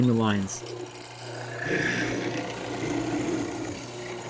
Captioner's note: machine whirs